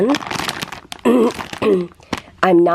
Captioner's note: clears throat